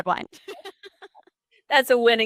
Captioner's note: laughter